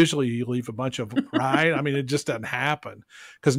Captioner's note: laughs